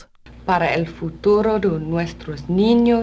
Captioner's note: speaking spanish